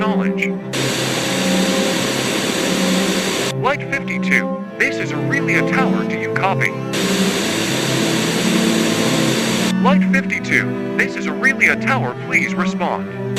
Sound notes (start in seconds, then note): 0.7 Static; 6.8 Static; 13.1 Static